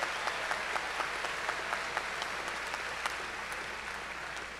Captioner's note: cheers and applause